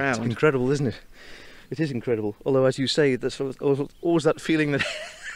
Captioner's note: laughing